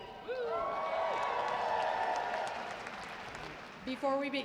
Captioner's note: audience applauding